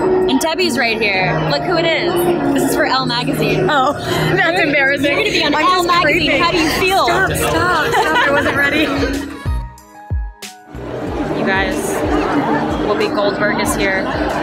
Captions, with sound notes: And Debby's right here, look who it is! This is for ELLE Magazine. - Oh (laughs). That's embarrassing. - You're gonna be on ELLE Magazine. - I'm just creeping. - How do you feel? - Stop, stop, stop! I wasn't ready! - You guys, Whoopi Goldberg is here.